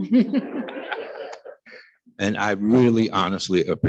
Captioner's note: attendees laughing